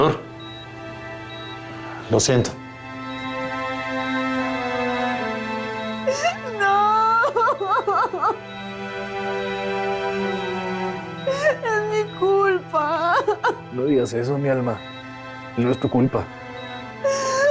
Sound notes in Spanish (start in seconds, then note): 13.0 Sollozos